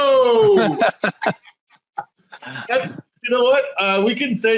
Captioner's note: laughing